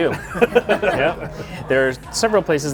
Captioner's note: all laughing